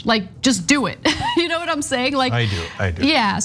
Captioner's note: laugh